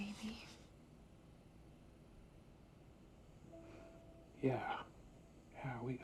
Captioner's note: crickets chirping